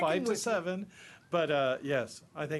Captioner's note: multiple voices